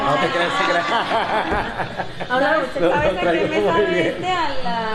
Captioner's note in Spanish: Risas